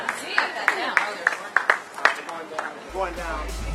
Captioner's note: applause